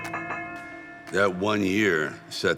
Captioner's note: bell ringing